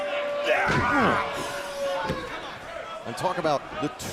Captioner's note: crowd chatter